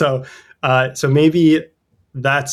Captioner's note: uh